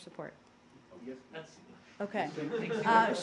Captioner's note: laughter